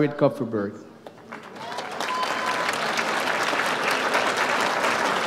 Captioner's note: audience applauds